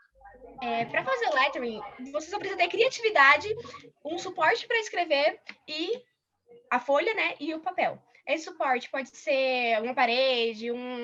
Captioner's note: non-english speech